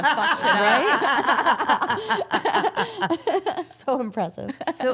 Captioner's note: all laughing